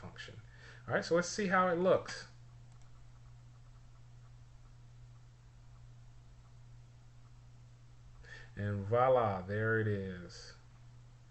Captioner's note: silence